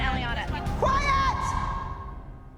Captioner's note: yelling